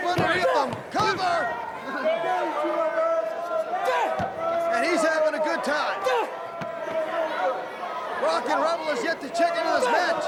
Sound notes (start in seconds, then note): 2.6 crowd chatter